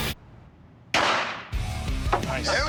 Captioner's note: gunshot